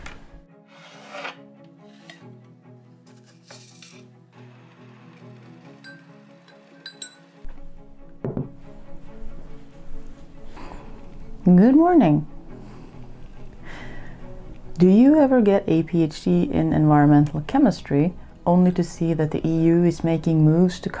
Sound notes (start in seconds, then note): 1.3 sounds of making tea; 6.8 clink